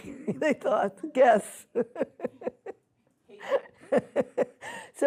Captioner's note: laughs